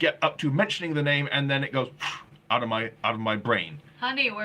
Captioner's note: blowing